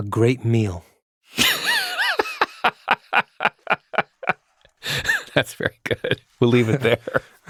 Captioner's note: laughing